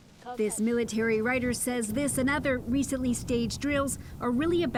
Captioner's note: speaking Foreign Language